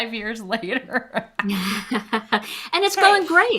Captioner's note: chuckles